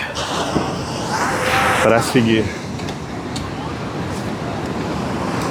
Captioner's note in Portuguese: grito